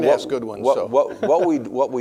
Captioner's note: laughing